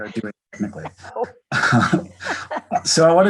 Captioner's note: both laughing